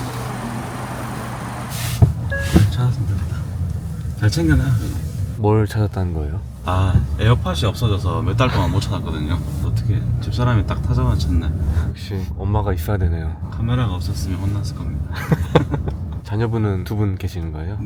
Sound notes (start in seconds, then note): 15.1 laughter